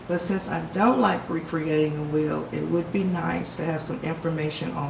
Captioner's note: none